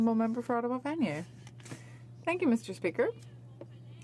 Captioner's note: speaking French